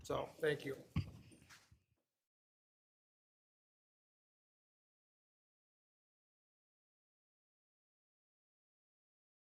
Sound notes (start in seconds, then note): 2.2 audio silence